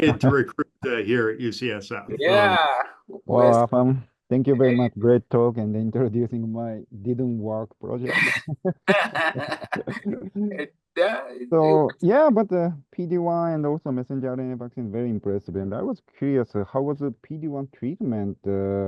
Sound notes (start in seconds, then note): 11.6 laughs